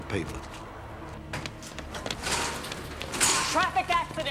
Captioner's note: running footsteps